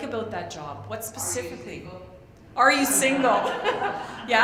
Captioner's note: laughs